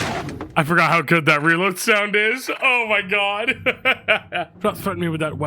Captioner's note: laughs